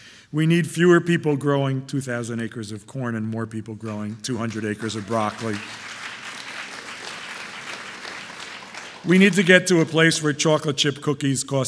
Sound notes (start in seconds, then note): 4.3 audience applauding